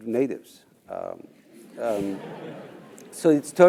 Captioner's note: laugh